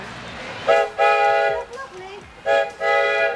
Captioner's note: train whistle blowing